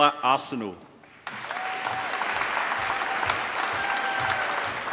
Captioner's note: applause